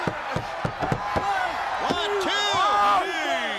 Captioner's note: crowd chatter